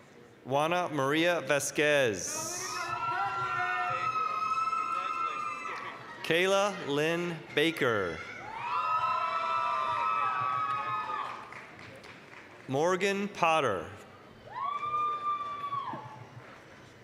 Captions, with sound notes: Juana Maria Vasquez. (applause, cheering) Kayla Lynn Baker. (applause, cheering) Morgan Potter. (applause, cheering)